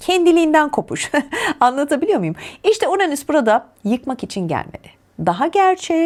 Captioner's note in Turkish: kahkaha